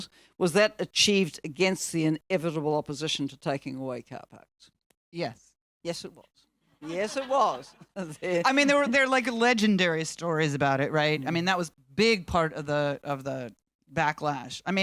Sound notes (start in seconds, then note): 6.8 audience laughing